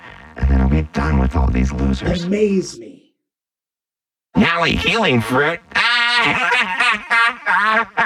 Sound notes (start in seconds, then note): 5.6 laughs